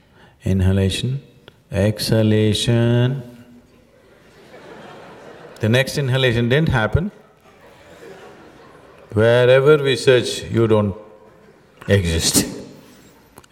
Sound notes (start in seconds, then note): 2.6 says in a stretching tone; 3.8 laughter